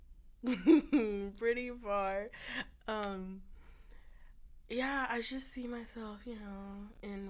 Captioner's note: laughter